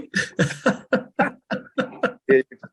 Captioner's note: laughter